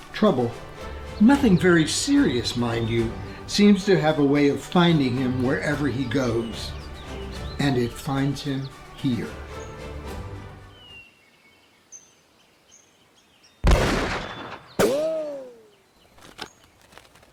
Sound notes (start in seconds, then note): 9.9 birds chirping; 13.6 guns banging; 16.2 horses hooves clopping